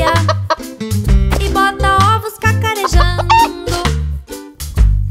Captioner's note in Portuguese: som de galinhazinha; som de galinhazinha